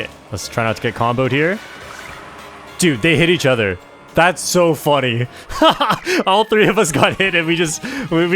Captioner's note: laughs